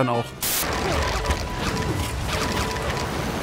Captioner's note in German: Klingelnde Geräusche